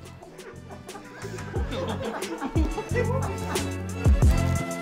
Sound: laughing

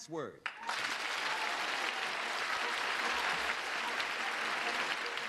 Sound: cheers and applause

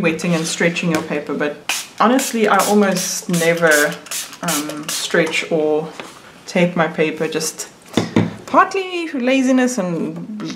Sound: spritzing noises

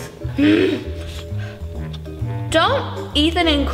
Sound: growling

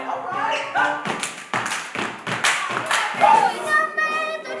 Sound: steps, claps

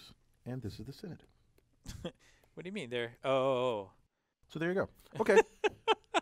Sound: laugh

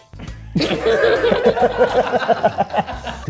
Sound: laughing

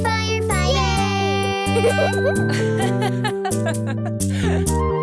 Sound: mom laughing

